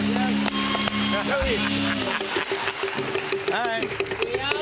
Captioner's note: laughs